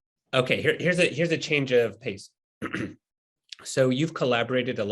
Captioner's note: clears throat